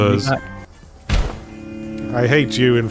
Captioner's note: door slams